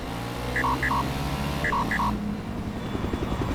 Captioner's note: beeping